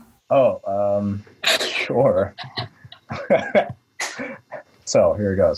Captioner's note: laughs